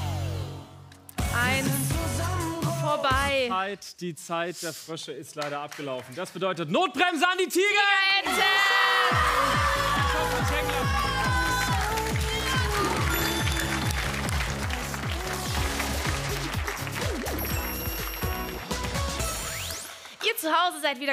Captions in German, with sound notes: Eins, vorbei. - Die Zeit der Frösche ist leider abgelaufen. Das bedeutet Notbremse an die Tigerenten! (Jubel, Applaus) (Dynamische Musik) Ihr zu Hause seid gefragt.